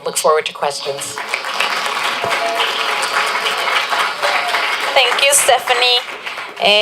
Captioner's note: applause